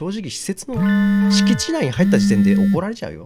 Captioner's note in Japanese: 📲 着信音：ブー！ブー！